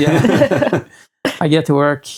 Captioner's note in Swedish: skrattande